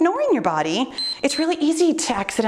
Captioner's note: timer beeps